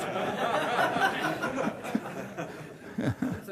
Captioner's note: laughter